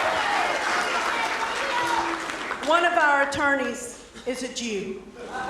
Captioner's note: cheers and applause